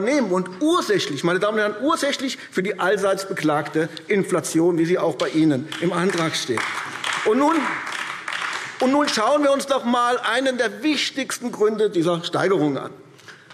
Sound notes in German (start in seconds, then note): 5.6 Beifall AfD